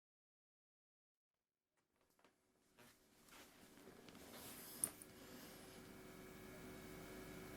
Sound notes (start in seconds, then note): 1.0 silence